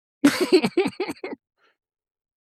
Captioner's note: laughing